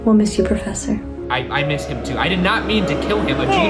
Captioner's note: crowd jeering